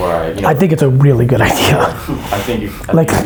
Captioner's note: laughs